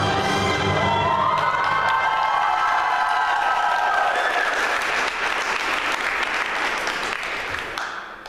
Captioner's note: applause